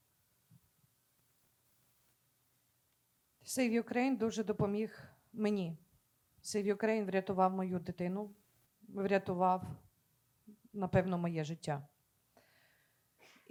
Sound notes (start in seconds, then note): 3.6 speaking Ukrainian